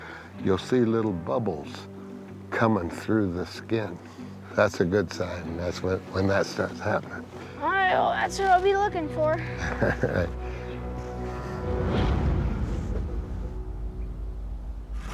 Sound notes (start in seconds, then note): 9.4 chuckles; 11.7 foreboding music playing